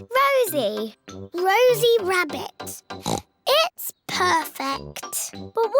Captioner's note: oinks